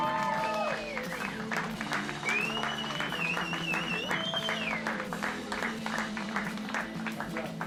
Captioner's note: cheering